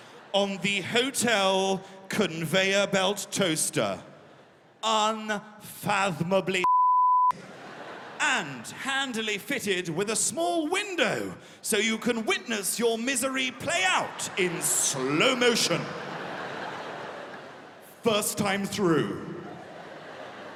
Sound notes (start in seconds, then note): 16.5 laughter